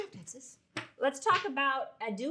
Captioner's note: hands clomp on desk